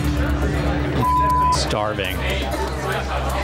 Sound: beep

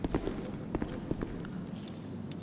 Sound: chirps

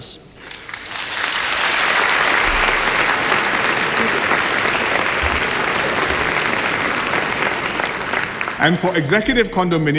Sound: applause

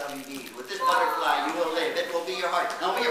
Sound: PIÑATA cries

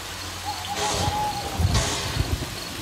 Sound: crickets chirp, night birds cry; thunder rumbles

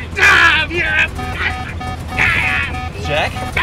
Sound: plane starts beeping

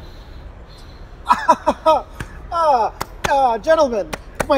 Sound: awkward laughter

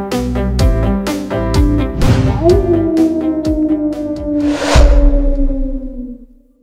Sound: howl

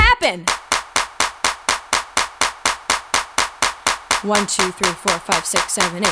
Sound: clapping

